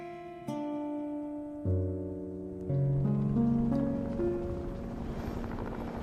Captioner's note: helicopter motor humming